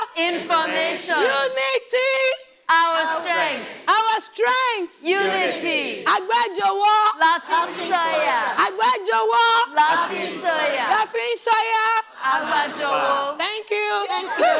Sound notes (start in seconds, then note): 6.2 speaking in foreign language